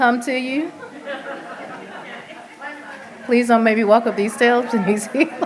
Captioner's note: laughter